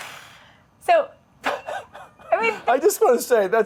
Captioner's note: laughing